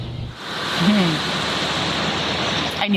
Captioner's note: lawn mower revving